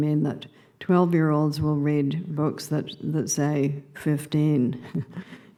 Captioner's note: laughing